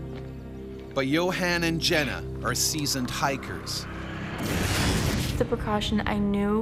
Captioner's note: voiceover